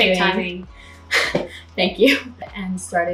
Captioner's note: laughing